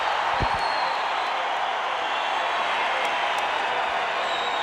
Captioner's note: crowd cheers